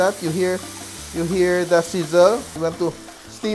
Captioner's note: sizzle